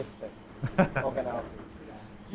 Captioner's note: laughs